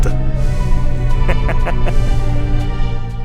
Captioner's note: laugh